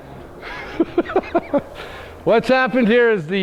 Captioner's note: laughs